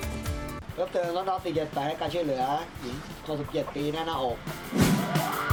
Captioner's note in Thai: เสียงเรียกวิทยุ; เสียงไซเรน